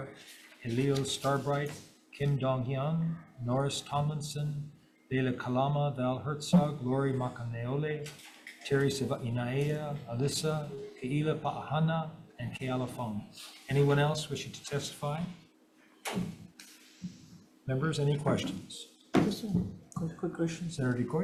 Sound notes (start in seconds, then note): 16.1 door thuds